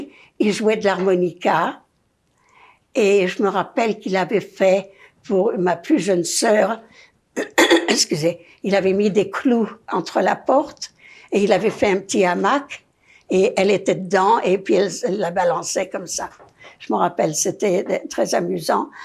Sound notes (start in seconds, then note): 7.4 coughing